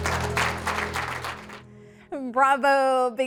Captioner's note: applause